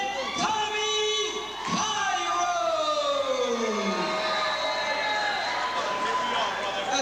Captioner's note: crowd cheering